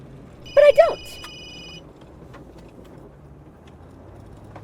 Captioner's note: phone ringing